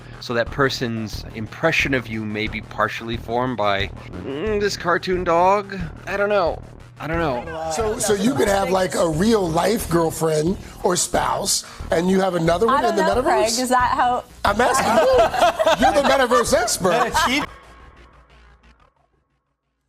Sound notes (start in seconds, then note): 4.3 straining; 14.5 all laughing